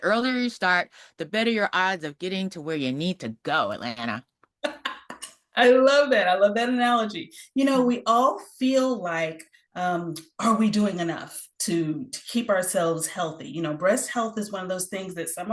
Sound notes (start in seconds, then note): 4.6 laughs